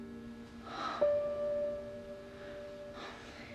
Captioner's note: Maggie moaning; gentle music